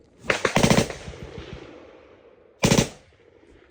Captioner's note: gun firing